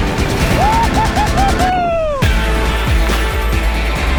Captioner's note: man whooping; upbeat electronic music